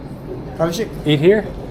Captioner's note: speaking Turkish